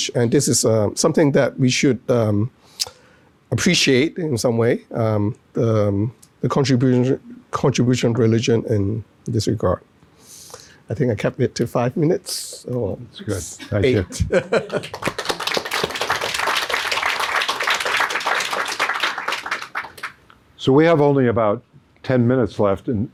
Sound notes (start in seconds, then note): 13.2 laughs; 14.5 audience clapping